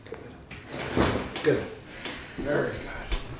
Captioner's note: joints cracking